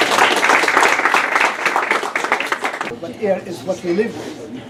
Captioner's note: applause